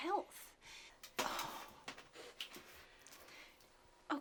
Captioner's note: sighs